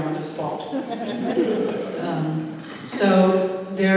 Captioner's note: laughter